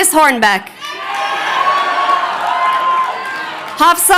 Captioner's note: crowd cheering